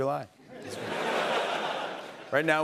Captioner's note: laughter